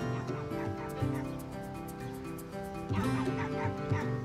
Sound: dog barking

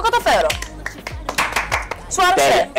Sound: impressive clapping

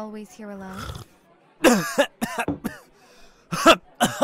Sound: coughs

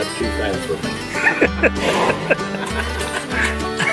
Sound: laughing

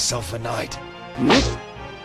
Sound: swish

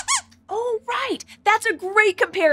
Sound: squeaks squeaks

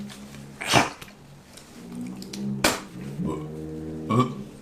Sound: spit

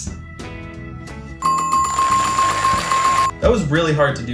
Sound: buzzer dings repeatedly

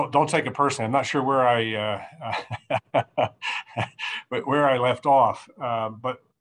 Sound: chuckling

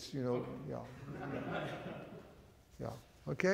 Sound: audience chuckles

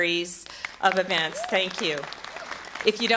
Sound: applause

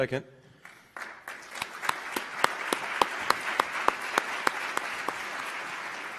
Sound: applause

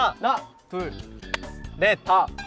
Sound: clap

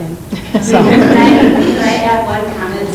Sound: group laughing

